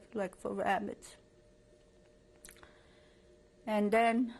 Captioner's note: pauses for 3 seconds